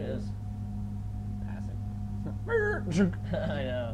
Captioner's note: making screeching noises